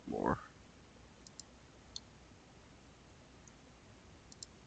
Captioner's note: mouse clicking